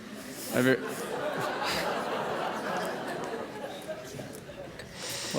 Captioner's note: laughter